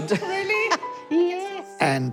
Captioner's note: chuckles